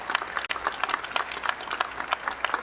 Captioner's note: applause